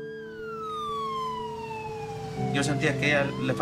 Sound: siren blaring

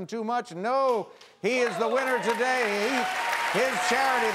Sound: audience cheering

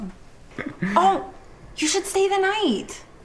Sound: laughs

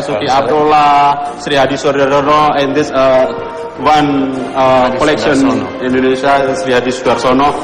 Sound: non-english speech

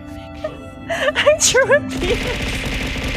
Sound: laughs

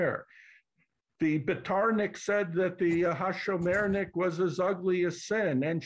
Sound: non-english

